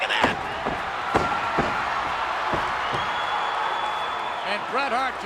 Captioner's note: legs thudding; audience cheering